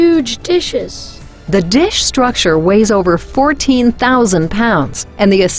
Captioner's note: voiceover